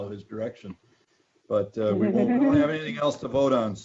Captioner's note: all chuckling